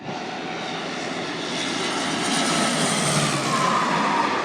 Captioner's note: plane engine humming